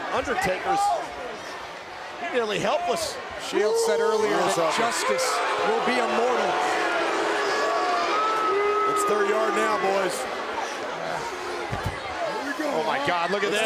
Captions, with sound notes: And Undertaker's nearly helpless. The Shield said earlier that justice will be immortal. (crowd booing) It's their yard now, boys. Here we go, huh?